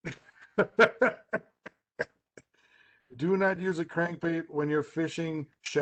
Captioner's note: laughs